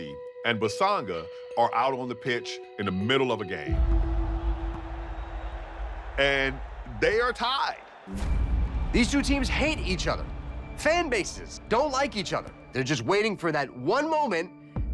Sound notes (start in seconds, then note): 6.3 crown cheers